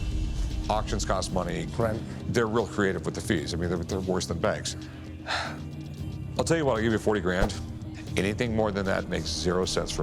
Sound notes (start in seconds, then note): 4.2 exhales sharply